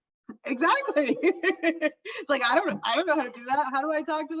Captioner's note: laughs